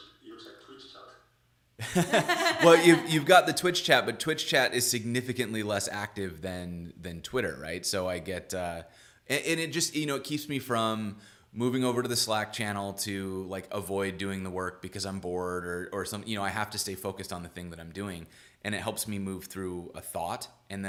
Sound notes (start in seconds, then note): 1.8 laughing